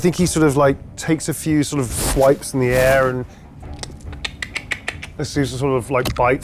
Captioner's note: imitates clacking